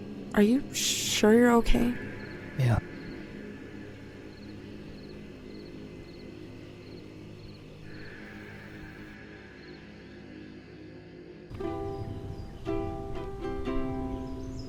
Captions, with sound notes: Are you sure you're okay? - Yeah. (insects chirp) (gentle music)